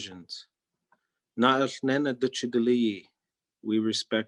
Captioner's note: speaking in Native Language